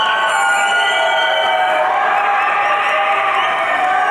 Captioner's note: audience cheering